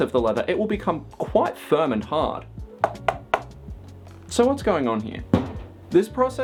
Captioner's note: knock knock